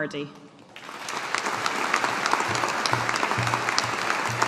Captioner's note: audience applauding